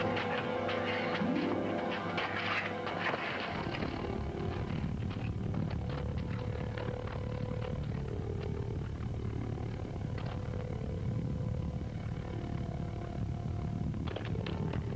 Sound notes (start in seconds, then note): 0.3 feet scuffling; 4.7 motor rumbling